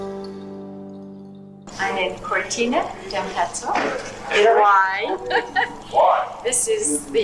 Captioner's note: speaking foreign language